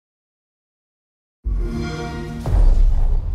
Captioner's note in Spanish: xbox sound